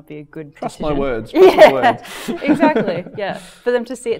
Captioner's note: chuckling